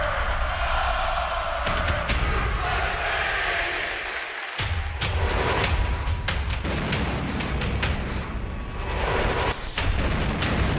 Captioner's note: fans chanting